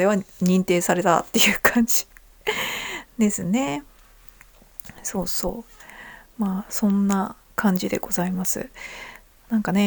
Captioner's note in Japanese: 息をのむ音